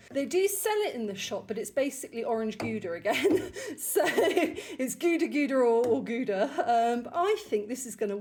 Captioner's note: laughing